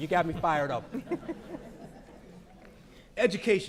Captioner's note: audience laughing